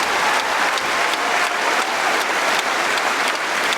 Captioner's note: applause